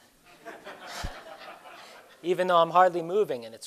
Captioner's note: laughter